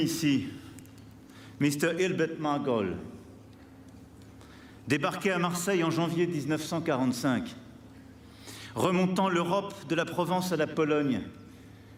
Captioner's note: speaking french